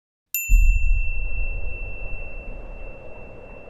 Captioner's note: bell chimes